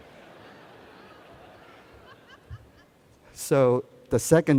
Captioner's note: laughter